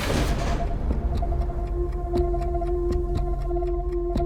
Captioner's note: tense music; clock ticking